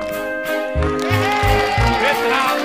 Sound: cheering

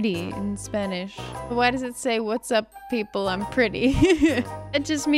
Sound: laughs

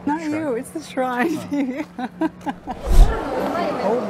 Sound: laughs

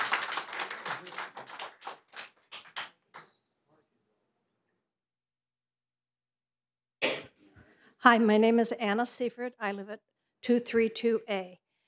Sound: applause

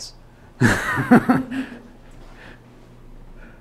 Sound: laughs

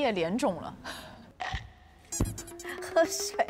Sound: choking

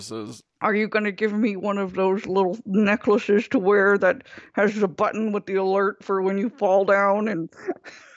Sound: laughs

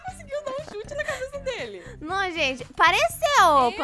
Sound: laughing

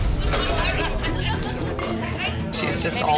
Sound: crowd chattering

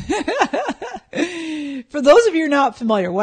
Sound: laughing

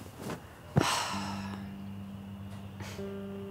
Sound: sighs

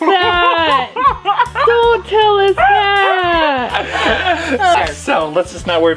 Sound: laughter

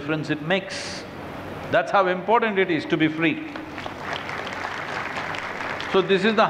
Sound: applause

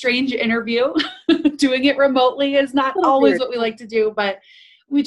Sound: laughs

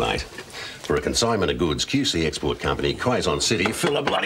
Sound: none

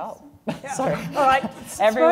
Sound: laughs

